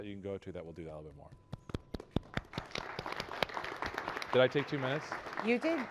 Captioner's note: applause